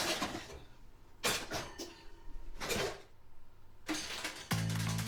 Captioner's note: noise of dishes